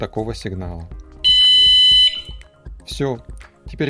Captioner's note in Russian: сигнал